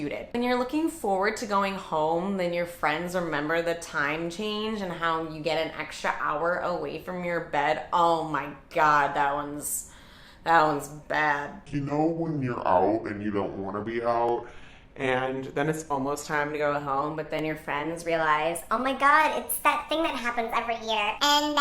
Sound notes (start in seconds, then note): 11.4 deep voice; 17.3 high-pitched voice